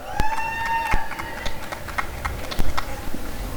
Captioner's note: applause and cheering